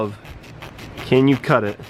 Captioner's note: knife scratches